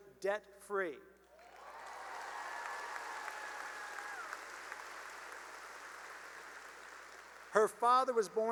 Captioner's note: cheering and applause